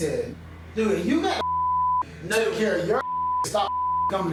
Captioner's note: beep